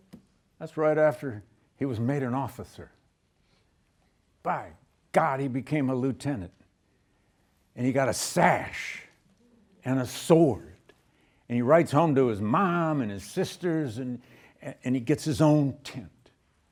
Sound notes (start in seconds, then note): none